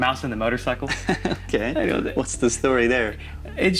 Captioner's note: chuckles